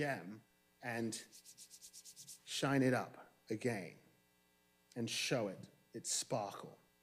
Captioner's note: rubs hands